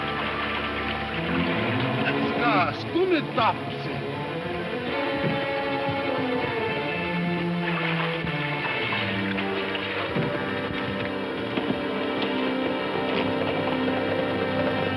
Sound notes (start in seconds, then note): 1.7 man speaks in foreign language; 4.0 tense upbeat music; 7.0 water splashing?